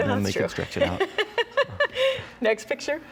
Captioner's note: chuckles